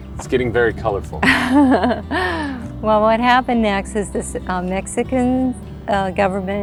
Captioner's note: laughs